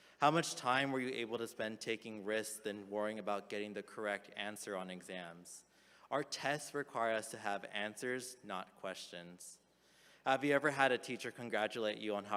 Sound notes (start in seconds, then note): none